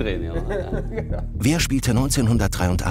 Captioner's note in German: Lachen